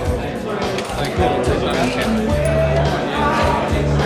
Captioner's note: men chattering